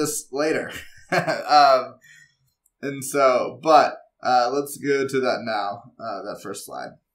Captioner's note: laugh